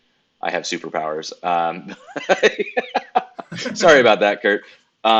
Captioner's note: laughing